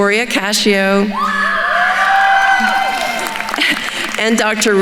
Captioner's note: attendees cheering and applauding